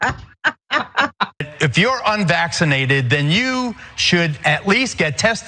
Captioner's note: laugh